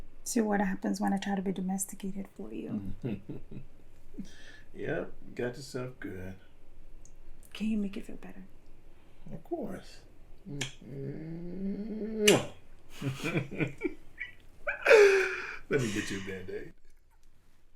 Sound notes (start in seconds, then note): 2.8 Jonathan laughing; 10.2 Jonathan laughing; 10.2 lips smacking